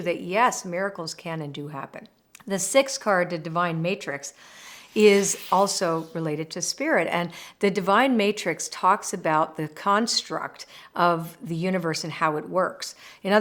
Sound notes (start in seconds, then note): 4.6 frame whooshes